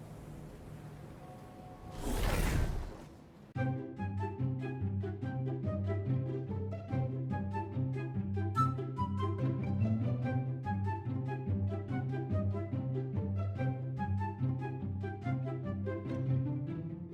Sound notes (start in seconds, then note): 1.6 whooshing; 3.6 theme plays